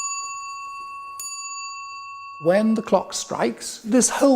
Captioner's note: chimes